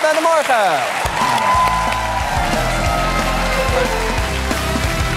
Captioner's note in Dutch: applaus en gejuich